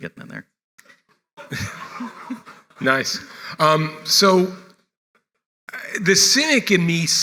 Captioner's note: laugh